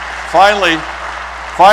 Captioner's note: applause